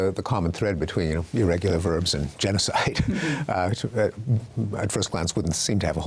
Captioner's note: chuckles